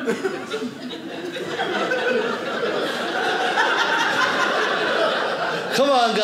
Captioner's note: audience laughing